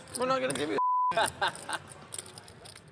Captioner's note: laughing